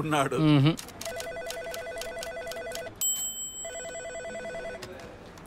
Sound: phone rings

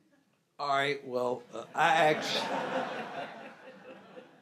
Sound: laughs

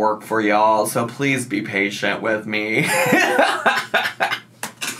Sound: laughs

